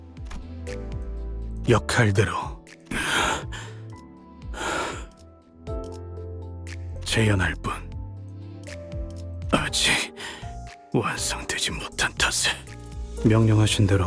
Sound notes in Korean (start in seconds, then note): 3.0 헉 소리; 4.5 한숨